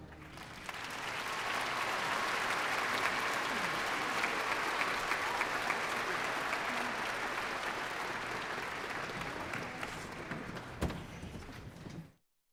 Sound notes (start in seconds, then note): 0.0 applause